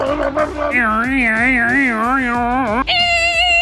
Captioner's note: Richard imitates blender; Bob imitates blender